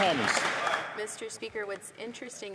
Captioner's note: some Applause